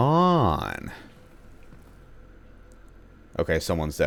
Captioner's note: moar close footsteps